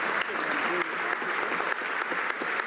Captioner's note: some Applause